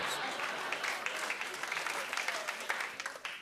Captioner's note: laughter